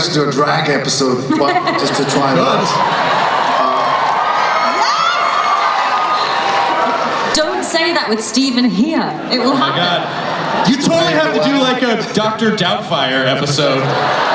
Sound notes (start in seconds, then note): 3.9 cheering